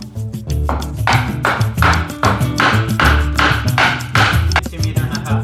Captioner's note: hammering